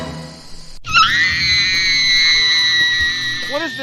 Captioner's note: Tranna Screaming